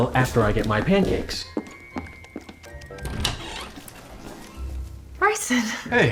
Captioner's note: footsteps, door opening